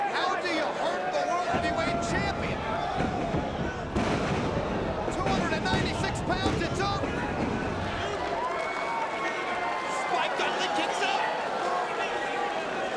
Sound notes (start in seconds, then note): 3.9 Mike Awesome thudding; 8.6 crowd cheering